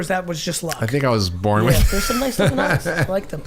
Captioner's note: laughs